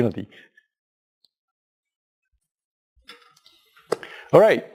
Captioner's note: pause